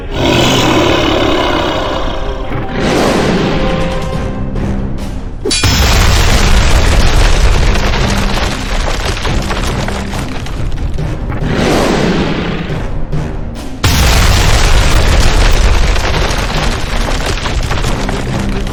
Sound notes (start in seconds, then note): 0.0 creature roaring; 5.5 swords clanging; 5.6 explosion booming; 13.8 explosion booming